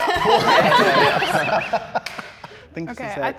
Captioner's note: all laughing